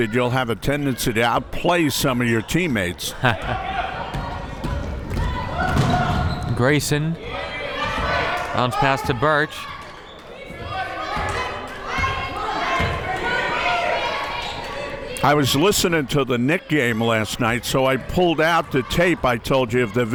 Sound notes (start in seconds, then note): 3.0 laughing; 5.2 crowd members shouting; 10.5 crowd members shouting